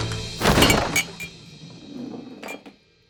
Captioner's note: glass jar rolls dramatically